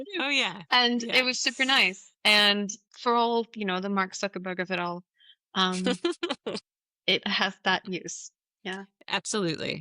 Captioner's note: laughs